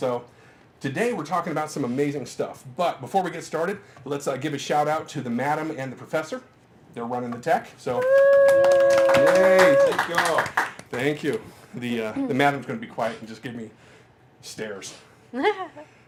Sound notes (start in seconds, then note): 8.0 cheering; 15.3 giggles in background